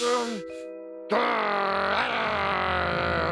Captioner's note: growls